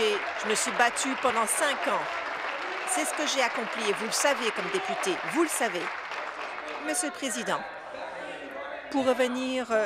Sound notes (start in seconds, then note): 2.9 applause